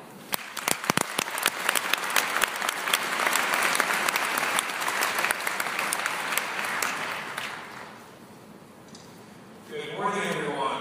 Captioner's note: applause